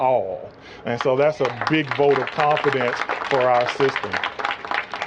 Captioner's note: applause